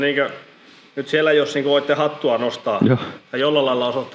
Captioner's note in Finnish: naurahtaa